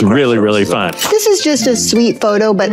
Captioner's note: camera snapping